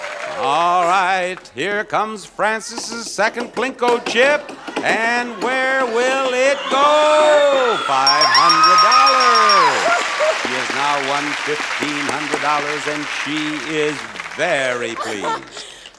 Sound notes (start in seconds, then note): 8.0 bell dinging; 9.3 squeals; 10.1 audience applauding